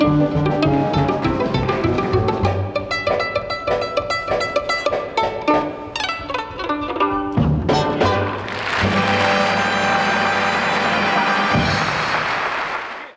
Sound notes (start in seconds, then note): 8.3 audience applauds